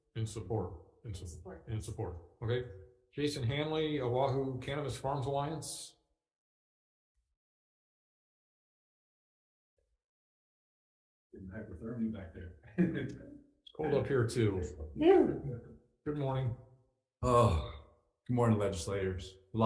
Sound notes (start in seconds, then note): 12.7 chuckles